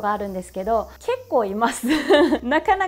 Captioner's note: laughs